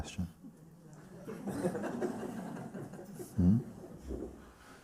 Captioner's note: laughter